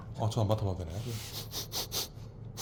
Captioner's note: sniff sniff